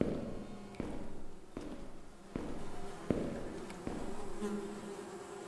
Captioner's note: echo-y footsteps, Flies